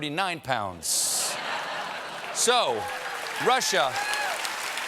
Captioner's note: laughter; applause